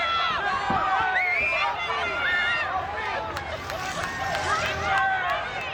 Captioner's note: audience cheers